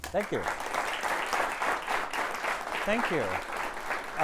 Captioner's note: applause